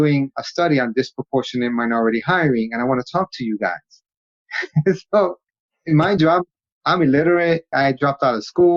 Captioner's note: laughs